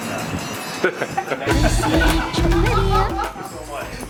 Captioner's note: both laugh loudly